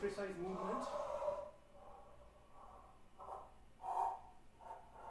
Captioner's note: dragging sound playing